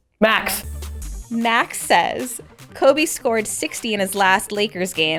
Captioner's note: voiceover